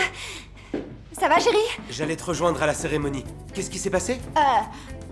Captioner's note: stammering